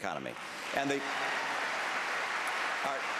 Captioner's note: applause